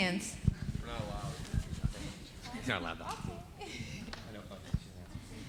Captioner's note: indistinct conversation